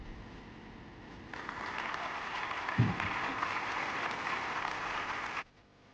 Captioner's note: audience applauds